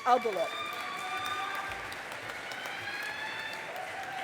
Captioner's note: audience applauding